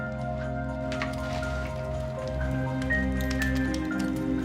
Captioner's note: fire crackling